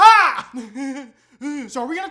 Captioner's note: mocks weird laughter; weird laughter